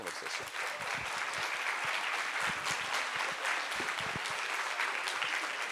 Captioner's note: applause